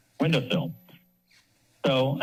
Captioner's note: pause